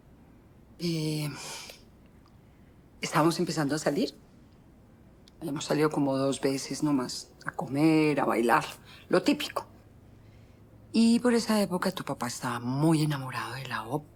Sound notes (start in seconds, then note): none